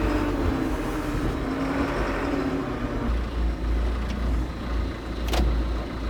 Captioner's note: telehandler engine rumbling continues